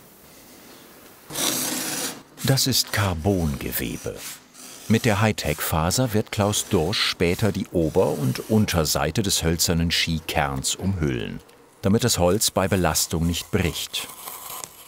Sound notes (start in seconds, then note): 1.2 low hissing